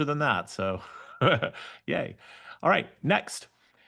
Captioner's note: laughs